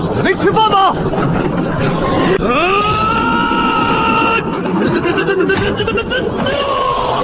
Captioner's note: thump thump thump thump thump thump thump thump